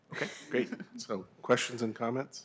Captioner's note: laughter